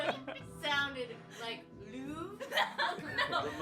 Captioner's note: laughs